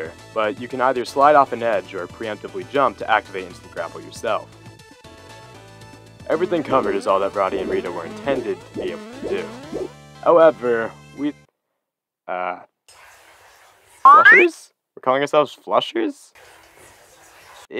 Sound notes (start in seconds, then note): 12.5 frantic whispering; 16.3 frantic whispering resumes